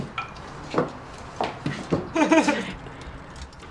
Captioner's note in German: lacht